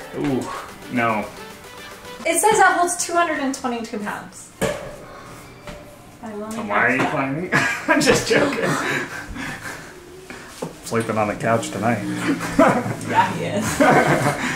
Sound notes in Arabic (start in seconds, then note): 7.5 ضحك; 10.0 لهث